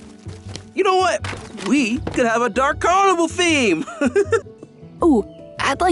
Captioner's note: chuckles